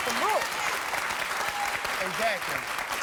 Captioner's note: clapping